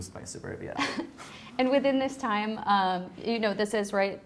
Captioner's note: chuckles